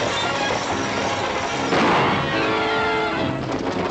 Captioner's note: gunshot